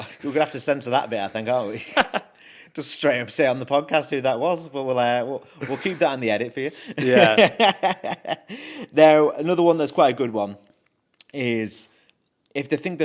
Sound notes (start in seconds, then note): 0.0 laughs; 2.3 laughs; 6.9 host laughs